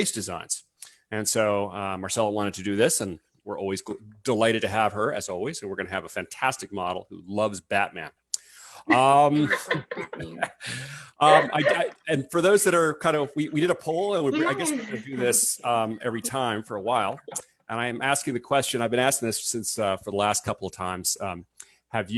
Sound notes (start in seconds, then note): 11.1 laughs